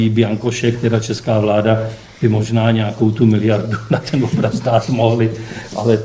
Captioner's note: laughs